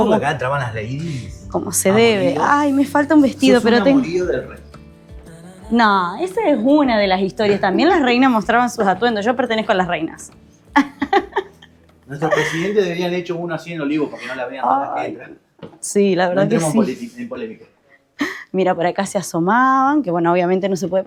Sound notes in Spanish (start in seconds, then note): 10.7 risas